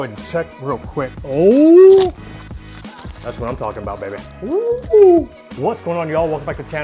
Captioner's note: hoots